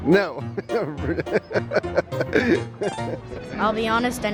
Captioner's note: laughing